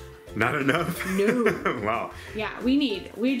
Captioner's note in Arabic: يضحك